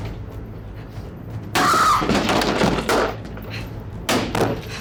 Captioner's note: hammer thudding